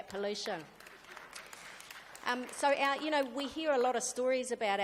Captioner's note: applause